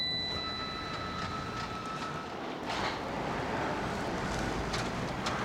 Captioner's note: ding